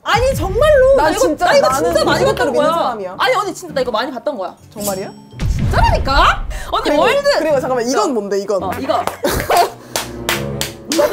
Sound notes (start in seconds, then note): 9.8 clap, clap; 9.8 clap, clap, clap, clap, clap